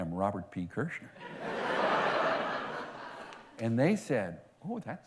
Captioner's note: laughter